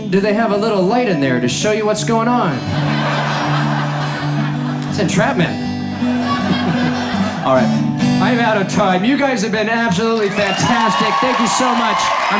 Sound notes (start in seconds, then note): 2.6 audience laughs; 5.6 laughing